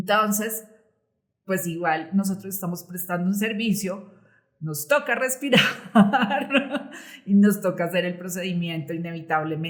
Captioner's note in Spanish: risas